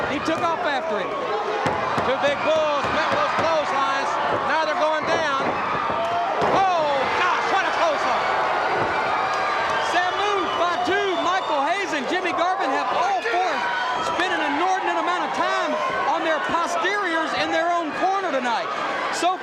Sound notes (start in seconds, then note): 8.1 audience cheers